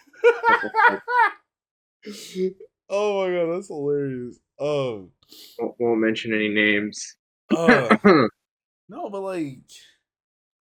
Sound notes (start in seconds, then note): 0.2 laughs; 7.5 laughs